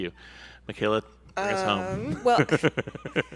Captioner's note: laughs